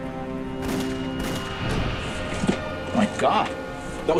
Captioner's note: gun firing